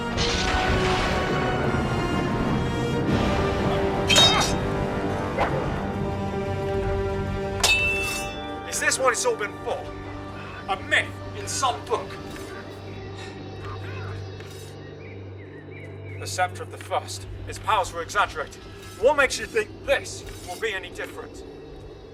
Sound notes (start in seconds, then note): 0.0 lightning strikes the sceptre; 3.8 grunting and groaning; 4.0 swords clanging; 10.8 background sounds of eddie and crall-mox fighting; 12.2 other breathes discontently